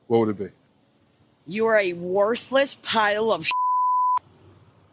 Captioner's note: beep